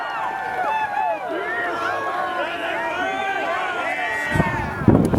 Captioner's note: cheering, whooping